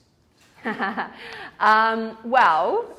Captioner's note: laughs